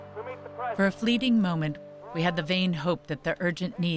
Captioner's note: voiceover